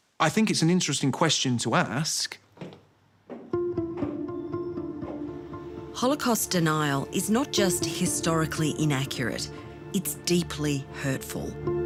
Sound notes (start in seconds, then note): 3.2 footsteps tapping; 3.5 tense thoughtful music